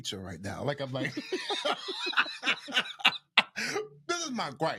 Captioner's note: both laughing